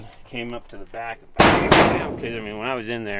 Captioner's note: metal clangs